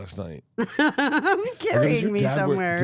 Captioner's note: Steph laughs